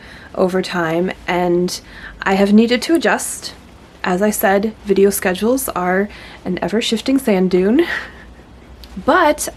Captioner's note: laughs